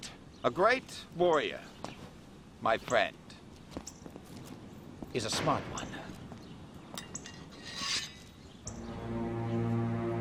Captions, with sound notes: - A great warrior, (footsteps) my friend, is a smart one. (sword unsheathed) (dramatic orchestral music)